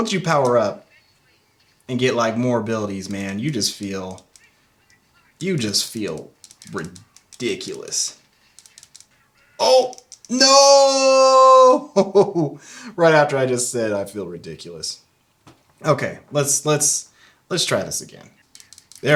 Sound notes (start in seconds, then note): 11.3 laughs